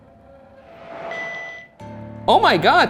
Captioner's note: Flux 2 beeps